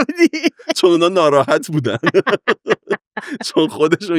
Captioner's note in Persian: خنده